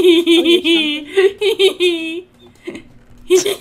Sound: cat giggles like a 5 year old

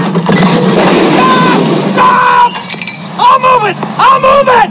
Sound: man screams

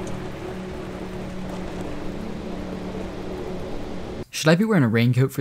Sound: raindrops falling

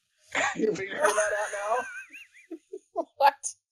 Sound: both laughing

